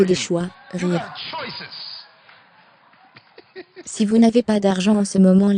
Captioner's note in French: rire